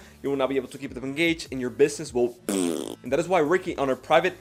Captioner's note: deflating noise